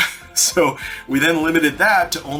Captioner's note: chuckles